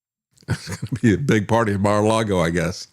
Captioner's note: laughs